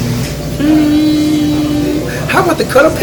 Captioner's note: ZZ Dad humming